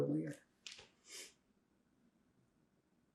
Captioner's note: pauses 6 seconds